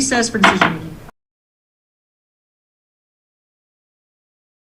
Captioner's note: gavel bangs